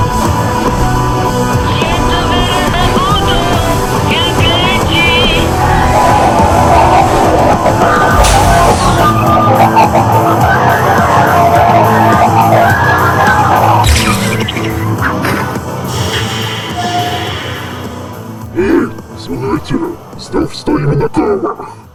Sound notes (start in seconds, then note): 10.1 growl